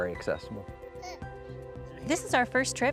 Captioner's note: baby babbles